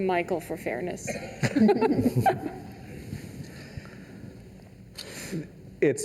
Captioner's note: laughter